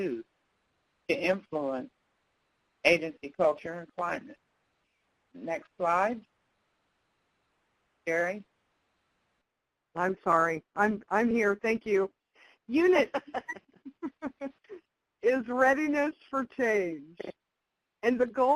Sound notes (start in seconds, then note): 13.0 laughter